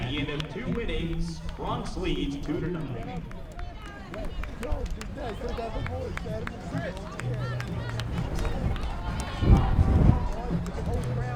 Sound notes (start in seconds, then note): 5.9 players talking in foreign language